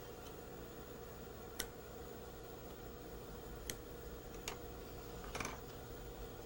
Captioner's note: scissors cutting thread